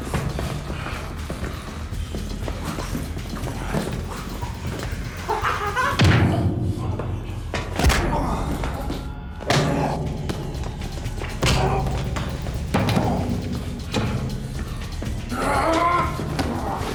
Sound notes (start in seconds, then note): 5.3 smacks; 11.3 grunts, bangs